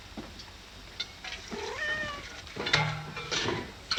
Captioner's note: cat meows